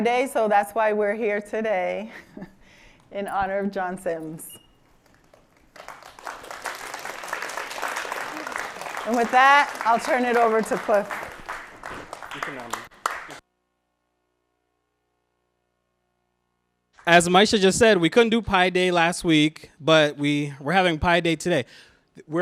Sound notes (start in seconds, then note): 2.1 chuckles; 5.1 applause